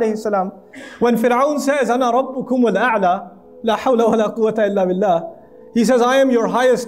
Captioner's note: Arabic